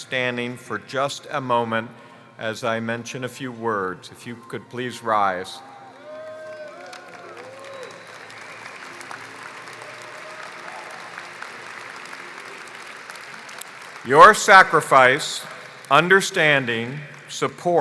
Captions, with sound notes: [ APPLAUSE ]THESE BE SEATED. >>